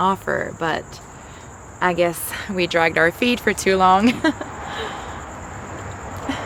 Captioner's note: giggles